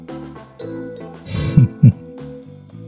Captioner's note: Damocles chuckle